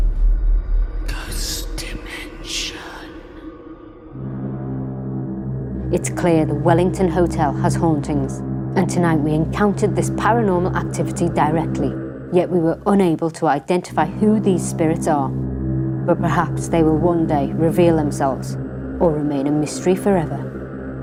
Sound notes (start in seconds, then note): 1.5 ghostly Voice